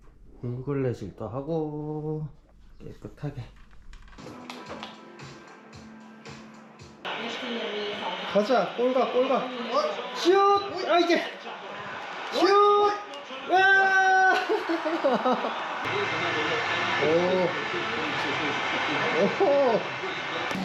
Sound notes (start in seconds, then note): 14.0 laughing